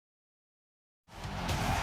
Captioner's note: crowd roaring